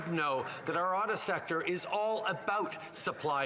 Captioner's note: applause